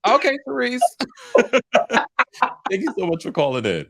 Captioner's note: both laughing